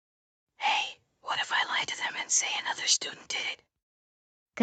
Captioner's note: whispering